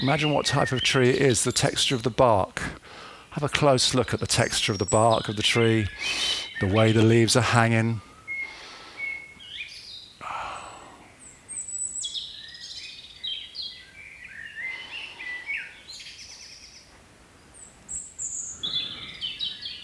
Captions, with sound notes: Imagine what type of tree is the texture of the bark. Have a close look at the texture of the bark of the tree. The way the leaves are hanging. [Breathing]